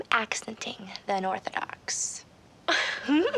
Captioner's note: giggling